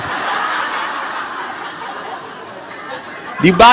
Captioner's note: audience laughs